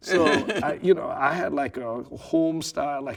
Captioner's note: laughing